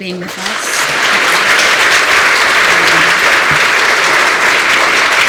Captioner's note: applause